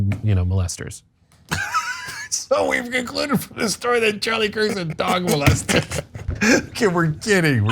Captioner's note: laugh